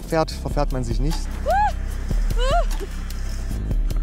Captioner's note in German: fröhliches Juchzen